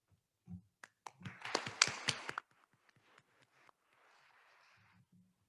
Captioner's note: attendees applauding